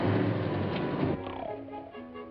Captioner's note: snoring; playful music